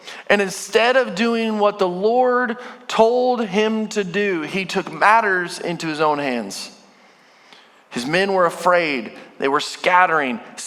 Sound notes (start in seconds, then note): none